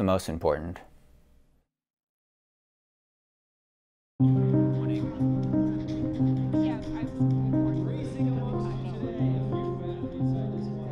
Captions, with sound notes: That's the most important. (gentle music) (people chattering)